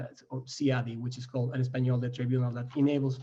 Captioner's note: foreign language